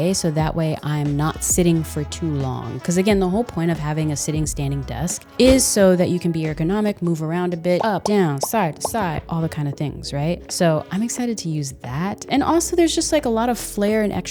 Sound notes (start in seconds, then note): 7.8 bubble popping